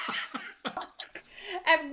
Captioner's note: laughs; slap